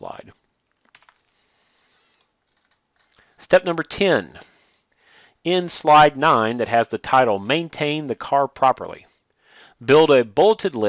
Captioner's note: click